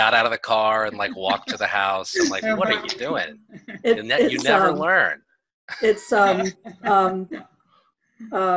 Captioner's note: laughter